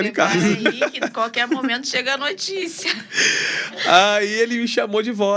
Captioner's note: risadas